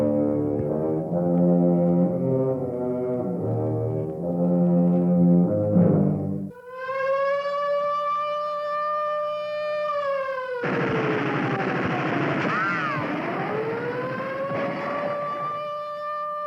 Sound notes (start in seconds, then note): 1.2 siren wailing; 6.1 machine gun fire; 12.9 machine gun fire